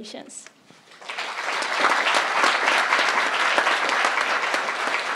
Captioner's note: crowd applauding